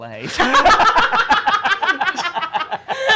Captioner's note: laughing